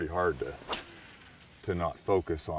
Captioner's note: rod whipping; reel spinning